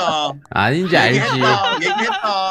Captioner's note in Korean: 거의 오열